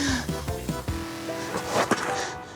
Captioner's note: panting